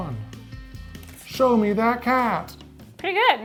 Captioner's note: paper rustling